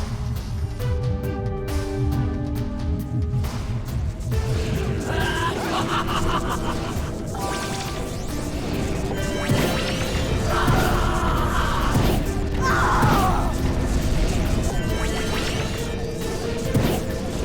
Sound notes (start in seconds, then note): 10.5 gol screams; 12.6 maia screams